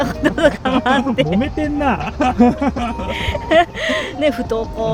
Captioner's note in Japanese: 笑い